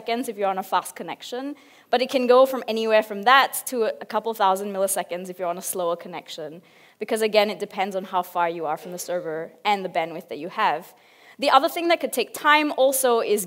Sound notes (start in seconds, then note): none